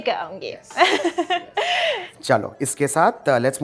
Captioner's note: chuckles